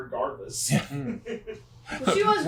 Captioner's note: team chuckles